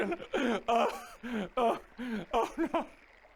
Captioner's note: cries